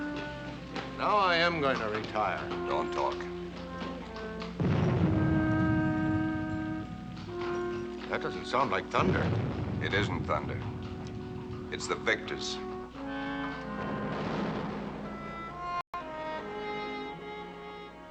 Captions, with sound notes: NOW I AM GOING TO RETIRE. DON'T TALK. [ Distant Explosion ] THAT DOESN'T SOUND LIKE THUNDER. IT ISN'T THUNDER. IT'S THE VICTORS. [ Bombing Continues ]